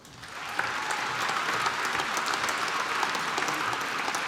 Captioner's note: applause